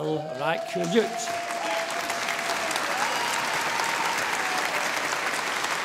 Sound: audience applauding

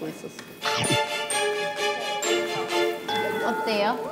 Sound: om nom

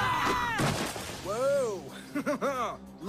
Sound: evil laughter

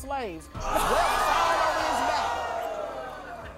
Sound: audience gasping

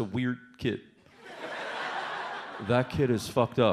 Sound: audience laughs

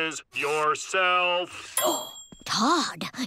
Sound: gasping

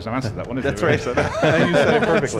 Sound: laughing

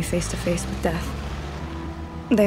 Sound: traffic whoosing

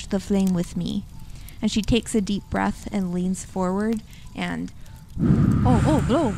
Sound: blows

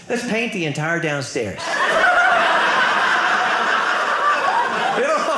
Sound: audience laughing

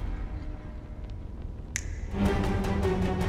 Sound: snap

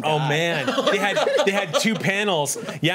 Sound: laughs

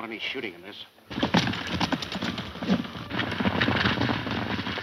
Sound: horses galloping

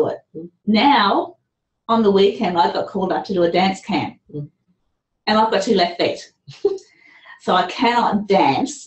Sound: laughter

